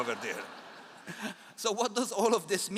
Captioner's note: all laugh